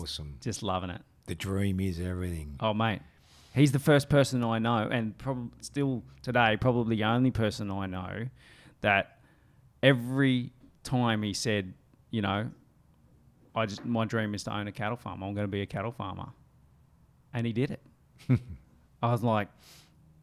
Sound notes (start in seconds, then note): 18.2 chuckles